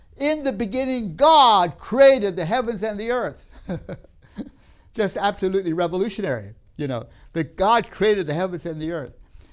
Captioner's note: laughs